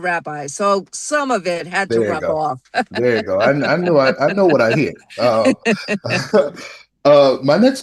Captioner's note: laughter